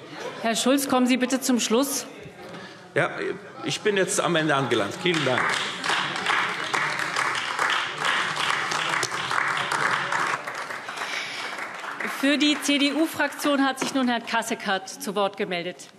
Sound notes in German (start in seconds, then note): 6.7 Beifall AfD